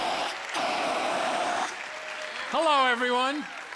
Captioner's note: blasts fire extinguisher; fire extinguisher hisses; cheers and applause